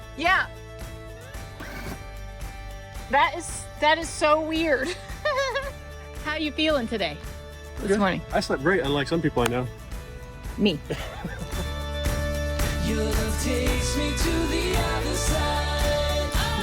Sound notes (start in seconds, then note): 4.8 laughs; 10.8 laughs